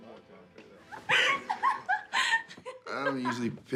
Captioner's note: woman laughing